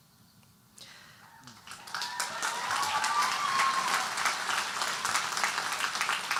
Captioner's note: audience cheering and applauding